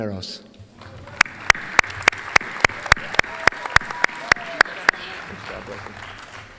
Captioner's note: applause